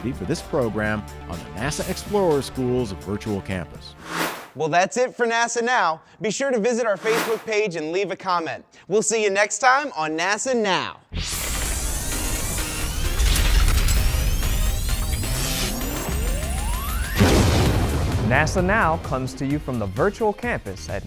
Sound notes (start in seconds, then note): 11.1 sound Effects